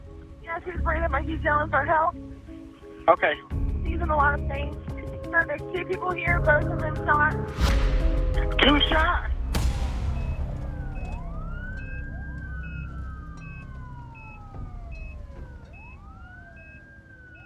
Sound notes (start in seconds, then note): 8.4 sirens wailing distantly; 8.7 monitors beeping